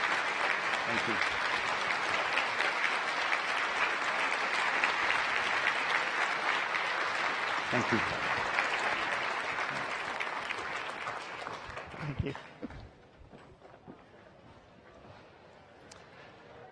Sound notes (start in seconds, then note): 0.0 applause